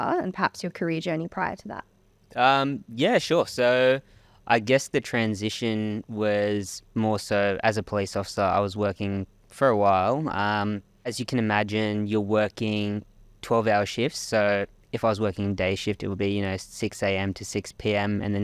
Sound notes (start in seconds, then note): none